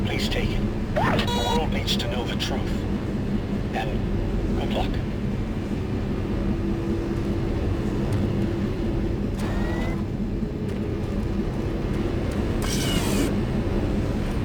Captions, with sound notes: Please take it. (beeping) The portal needs to know the truth and good luck.